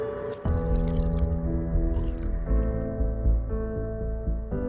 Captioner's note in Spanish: Sonido del líquido desplazándose